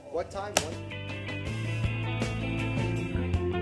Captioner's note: sounding gavel